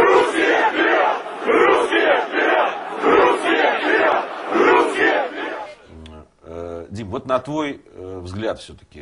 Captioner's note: crowd chanting